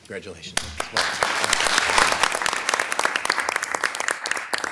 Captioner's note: audience applauding